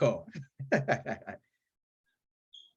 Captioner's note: laughs